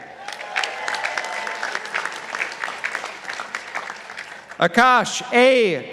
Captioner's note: participants applauding